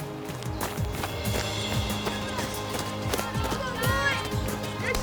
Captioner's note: crowd murmuring